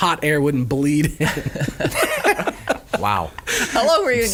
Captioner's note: laughing